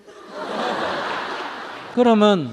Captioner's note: audience Laughter